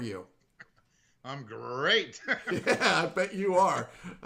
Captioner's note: laughing